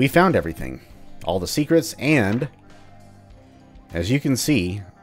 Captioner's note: journal opens